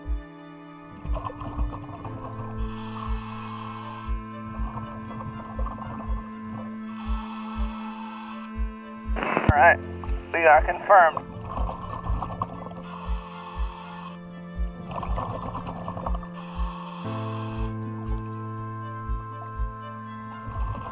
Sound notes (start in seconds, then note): 0.1 tense music; 6.9 breathing